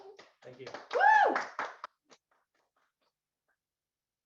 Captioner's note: guests applaud